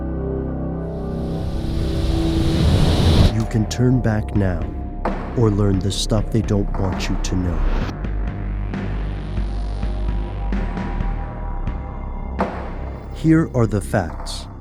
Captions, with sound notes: (intense music) - [Voiceover] You can turn back now or learn the stuff they don't want you to know. Here are the facts.